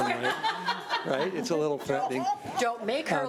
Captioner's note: laughing